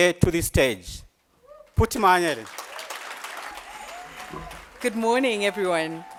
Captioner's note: applause